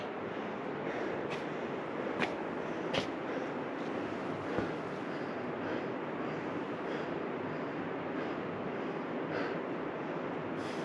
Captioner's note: panting